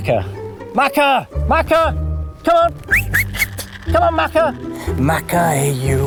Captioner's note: whistles